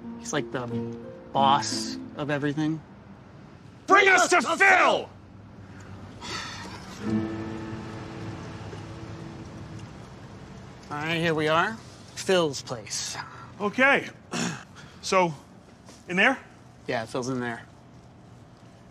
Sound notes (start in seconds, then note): 6.2 sighs; 14.3 clears throat